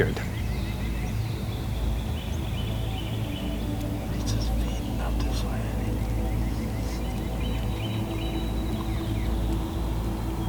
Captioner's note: whispering